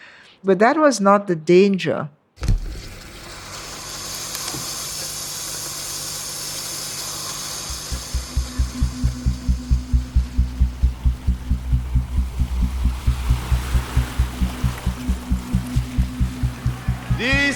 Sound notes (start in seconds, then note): 3.8 soundbite of archived recording